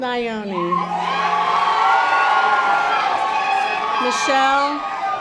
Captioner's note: audience applause